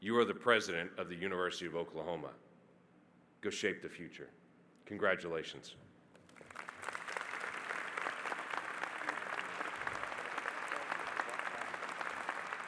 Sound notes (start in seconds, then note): 6.2 audience applauding